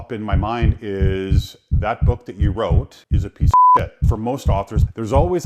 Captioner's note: beep